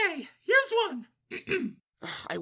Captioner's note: clears throat